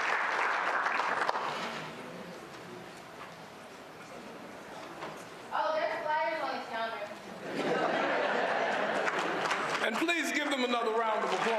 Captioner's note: applause